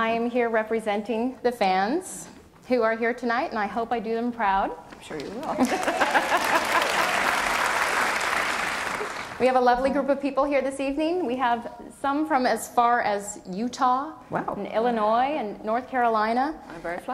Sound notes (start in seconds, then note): 5.6 audience applause